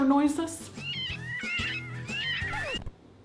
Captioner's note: rabbits squealing; record scratches